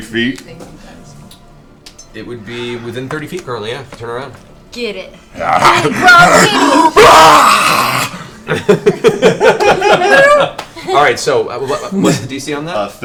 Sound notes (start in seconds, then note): 5.4 yells; 8.4 all laugh